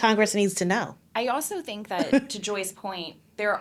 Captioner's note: laughing